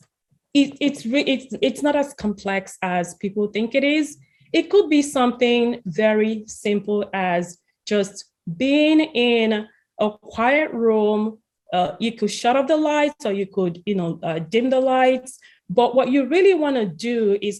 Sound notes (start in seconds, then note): none